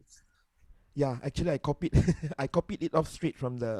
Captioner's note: student laughs